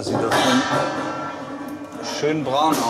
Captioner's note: clattering